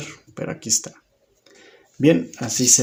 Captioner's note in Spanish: Silencio